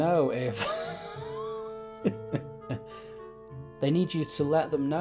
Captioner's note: laughing